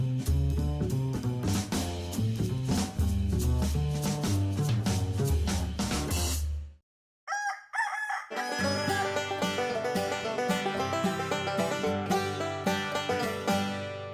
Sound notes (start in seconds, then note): 7.2 rooster crows; 8.3 banjo plays